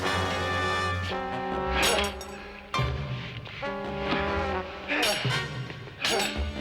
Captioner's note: groans; swords clank